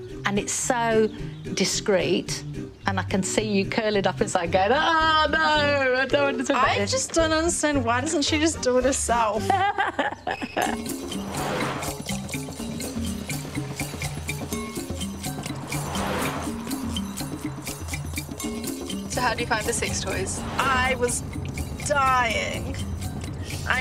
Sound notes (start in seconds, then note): 9.3 laughs; 10.8 upbeat exotic music; 16.0 air whooshing